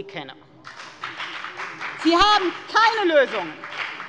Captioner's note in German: Beifall bei der FDP